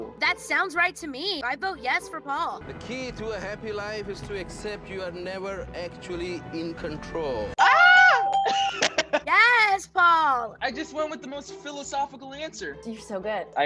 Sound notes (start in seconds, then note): 8.2 bell ringing; 8.5 laughs